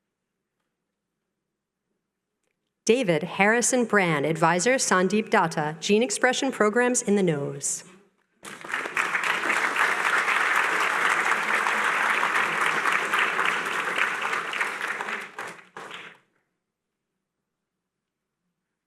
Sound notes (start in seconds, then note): 8.4 applause